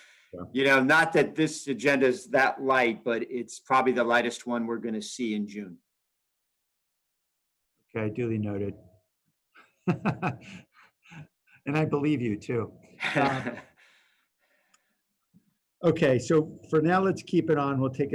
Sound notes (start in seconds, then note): 9.8 laughter